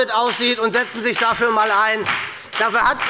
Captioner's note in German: Beifall bei der SPD und der FDP